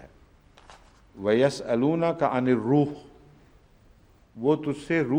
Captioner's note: Arabic